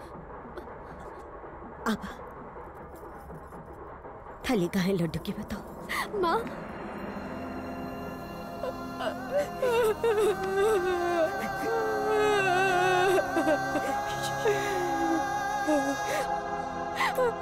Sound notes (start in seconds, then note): 8.6 Crying